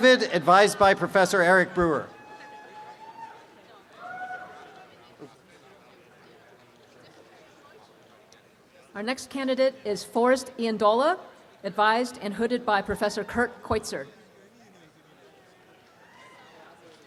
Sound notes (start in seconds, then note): 2.2 applause and cheering; 2.2 background audience chatter; 16.0 applause and cheering; 16.0 background audience chatter